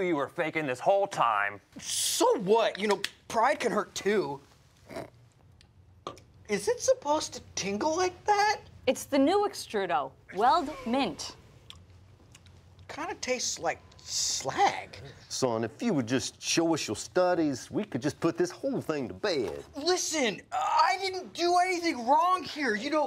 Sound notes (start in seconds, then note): 4.3 sips